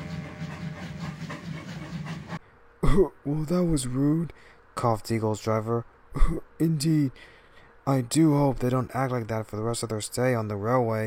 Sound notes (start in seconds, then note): 2.8 coughing; 6.8 cough